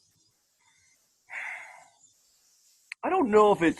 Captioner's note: audible sigh